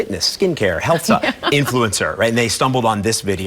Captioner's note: laughing